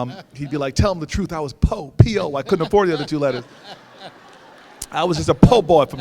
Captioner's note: audience laughs